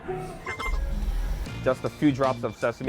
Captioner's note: object ringing